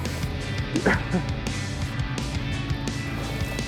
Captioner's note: chuckles